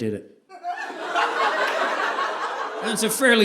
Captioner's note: audience laughing